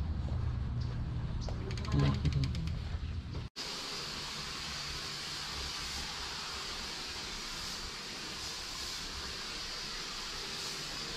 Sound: sound of pressurized solution hitting carpet

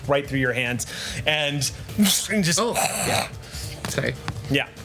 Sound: monster sounds

